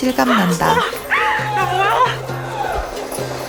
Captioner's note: confused